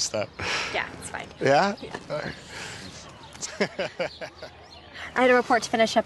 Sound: giggles

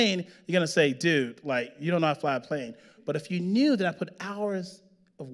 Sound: none

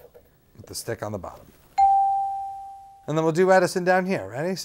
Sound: bell dings

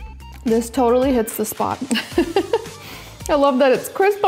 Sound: laughs

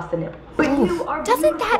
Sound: winces

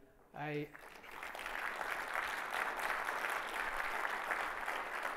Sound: audience applauds

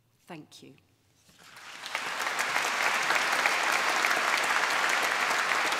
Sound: clapping

